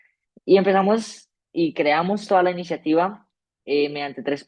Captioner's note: speaking spanish